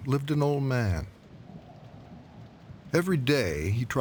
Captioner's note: wind blowing; rain pouring